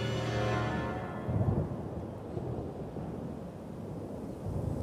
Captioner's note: le tonnerre gronde